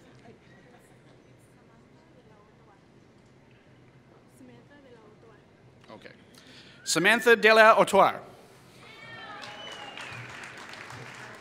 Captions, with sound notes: Samantha Dela Atwar [Applause]